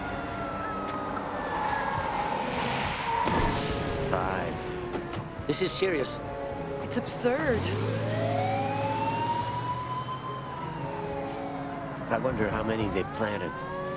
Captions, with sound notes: (explosion blasts) - Five. - This is serious. - It's absurd. (police siren wailing) - I wonder how many they planted.